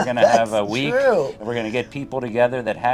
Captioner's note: laughs